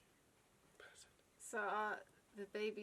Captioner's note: whispers